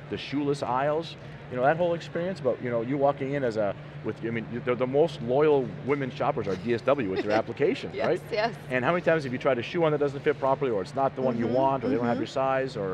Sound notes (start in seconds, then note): 7.0 laughs